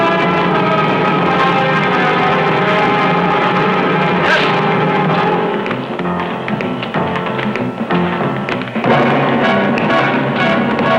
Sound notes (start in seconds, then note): 4.1 crying out; 4.2 whacking; 5.8 dramatic chord